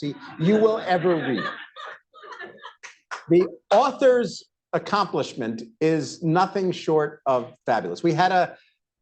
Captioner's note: laughter, applause